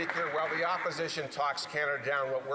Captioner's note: some Applause